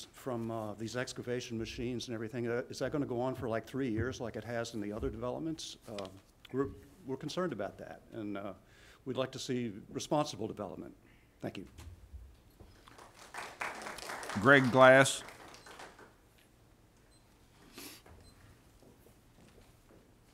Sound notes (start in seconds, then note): 15.5 applause